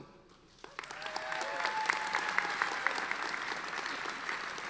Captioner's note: audience applauding